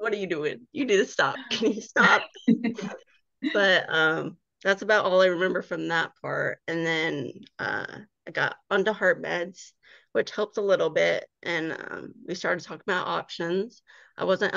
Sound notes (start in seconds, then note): 2.0 laughing